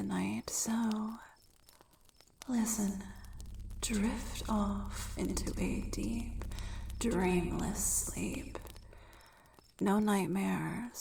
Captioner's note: echoing